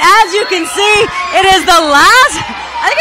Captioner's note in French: cheering; cheers and applause